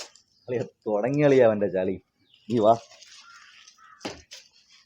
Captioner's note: playfully